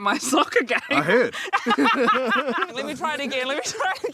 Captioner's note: both laughing